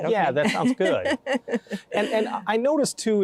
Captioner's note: laughing